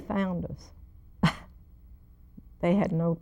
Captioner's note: chuckles